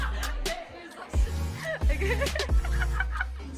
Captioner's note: laughs